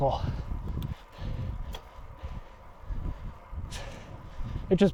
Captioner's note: wind blowing